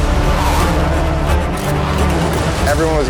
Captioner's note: engines revving; intense music